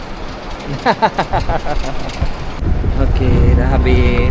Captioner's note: laugh